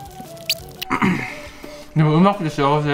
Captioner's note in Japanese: の咳き込み